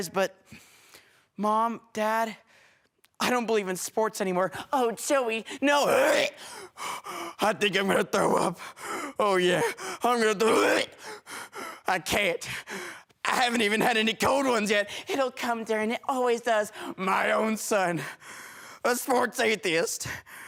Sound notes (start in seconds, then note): 6.5 dry heaving; 10.8 dry heaving